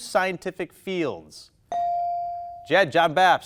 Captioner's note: bell dinging